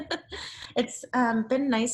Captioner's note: laughs